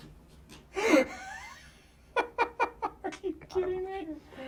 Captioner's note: David laughs